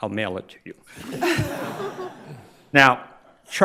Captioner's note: crowd laughs